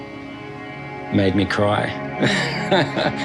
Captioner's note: laughs